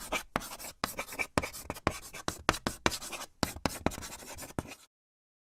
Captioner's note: sound of chalk writing on a chalkboard